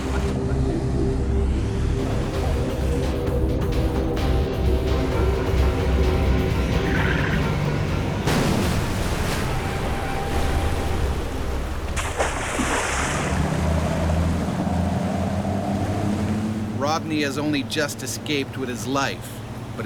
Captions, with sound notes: (drumming music) (thump) (splash) (motor boat rumbles) - [Voiceover] Rodney has only just escaped with his life